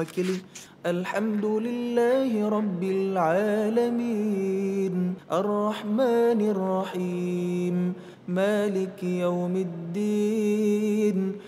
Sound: reciting quran

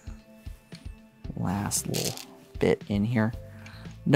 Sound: stones rattling

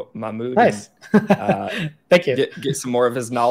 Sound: laughs

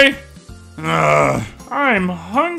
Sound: groans

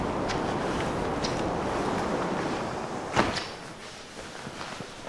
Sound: door close

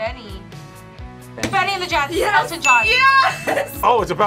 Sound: buzzer rings

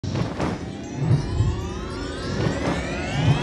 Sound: flapping

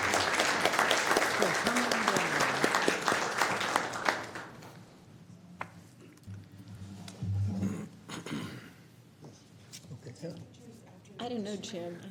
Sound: applause

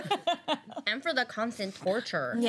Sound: girls laughing

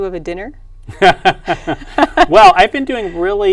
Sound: laughs

